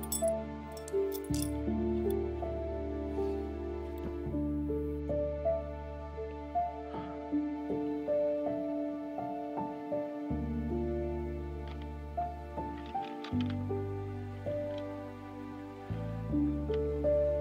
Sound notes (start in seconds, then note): 5.2 sadly exhales; 11.9 sad music continues